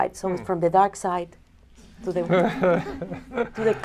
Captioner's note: laughter